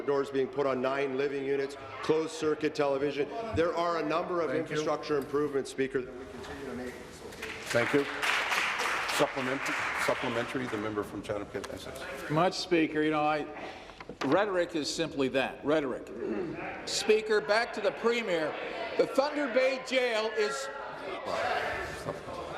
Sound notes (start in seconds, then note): 11.9 applause